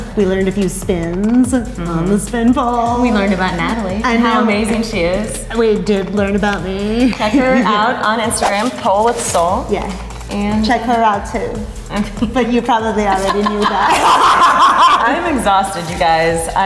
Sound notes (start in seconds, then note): 13.0 laughing